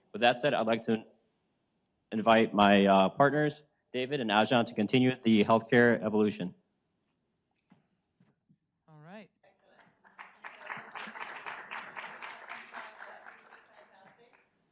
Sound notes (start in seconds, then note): 9.9 audience applauds